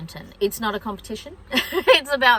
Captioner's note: laughs